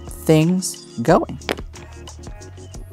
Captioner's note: tile clattering